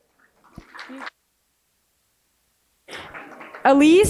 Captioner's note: applause